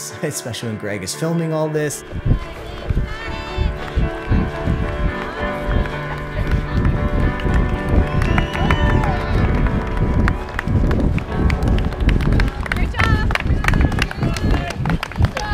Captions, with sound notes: especially when Greg is filming all this (cheers!) You got it! (applause)